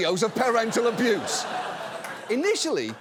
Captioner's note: audience laughs